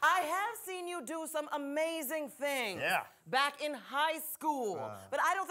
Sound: none

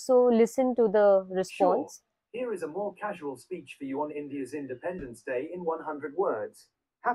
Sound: Automated Bard voice

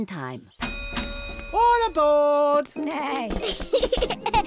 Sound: dings bell

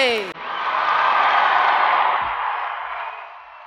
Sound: audience cheering and applauding

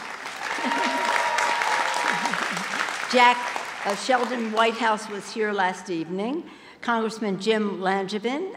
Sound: applause

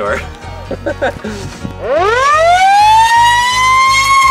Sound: laughs; siren

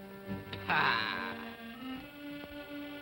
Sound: scoffs

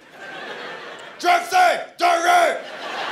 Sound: caveman voice; laughter

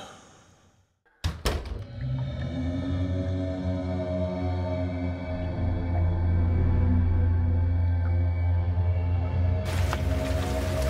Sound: door closes, creepy sound and music

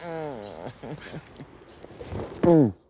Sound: laughs

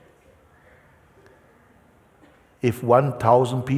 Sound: none

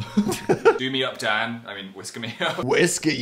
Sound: laughing; laughs

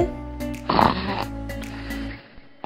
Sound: snoring!

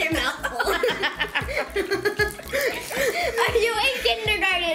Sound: giggles

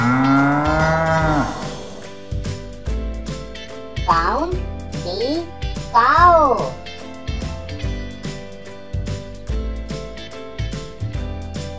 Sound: cow Sound

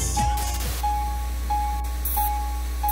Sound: static

